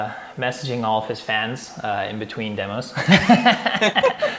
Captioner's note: laughs